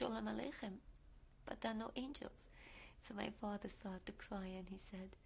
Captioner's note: hebrew